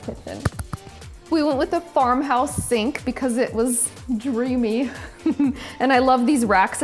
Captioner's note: laughs